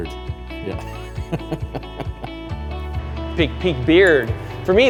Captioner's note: laughing